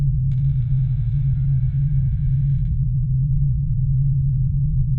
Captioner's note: door creaks